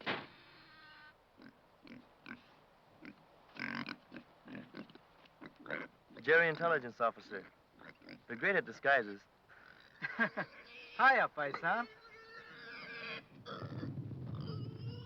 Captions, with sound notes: (pig snorting) - Jerry intelligence officer. They're great at disguises. - Hiya, paisan. (pig snorting)